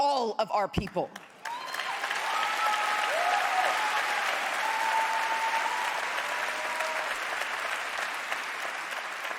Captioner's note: applause